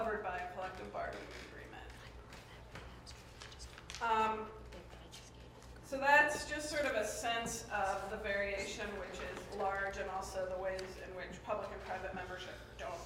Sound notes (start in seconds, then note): 2.5 whispering